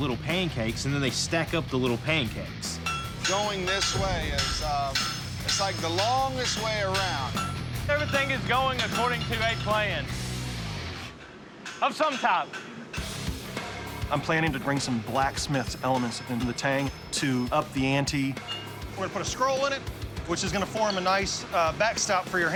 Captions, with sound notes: and then they stack up the little pancakes. - Going this way is, um-- it's like the longest way around. [metallic clinking] - I'm planning to bring some blacksmith's elements into the tang to up the ante. I'm gonna put a scroll in it, which is gonna form a nice backstop for your hand